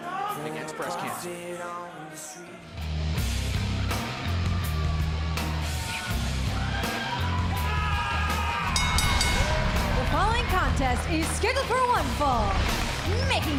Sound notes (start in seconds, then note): 10.6 bell